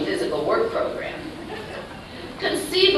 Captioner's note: laughter